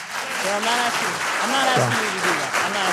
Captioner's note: audience applause